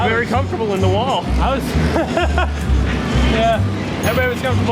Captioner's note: laughs